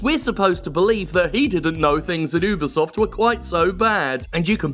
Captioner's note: mocking